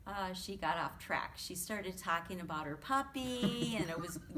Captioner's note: chuckles